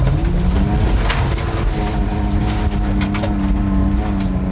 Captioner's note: car revving loudly